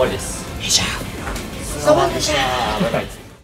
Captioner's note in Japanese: 小声で